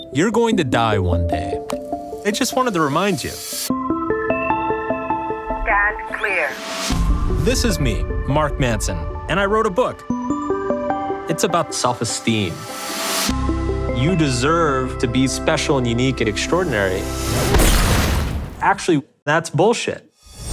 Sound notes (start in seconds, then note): 6.2 automated Voice; 17.6 glass and metal crunching